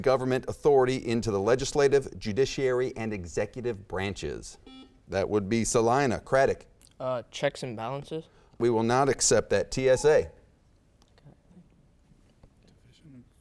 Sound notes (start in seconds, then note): 4.6 beeping; 10.8 whispering